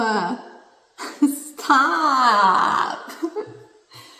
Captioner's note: laughs